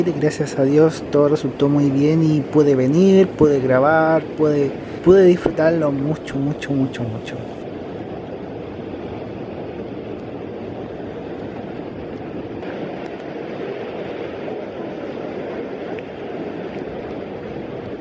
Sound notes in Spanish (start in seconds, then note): 7.8 sonido ambiente de río y termas